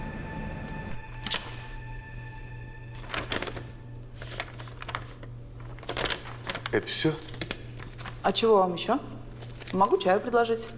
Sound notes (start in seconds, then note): 0.9 paper rustling